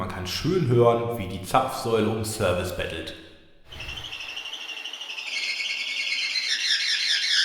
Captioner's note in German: alles saugende Zapfsäulengeräusche